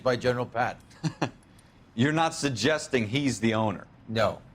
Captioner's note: laugh